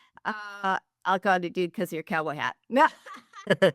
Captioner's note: laughter